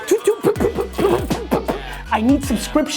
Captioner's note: makes laser noises